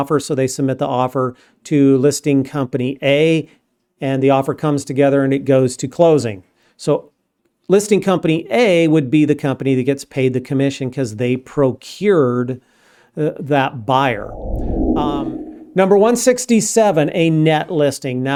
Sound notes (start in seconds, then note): 14.0 air whooshing